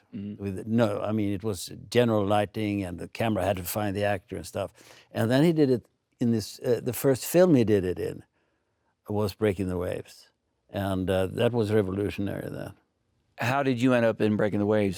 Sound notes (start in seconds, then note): none